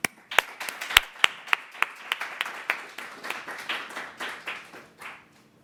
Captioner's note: applause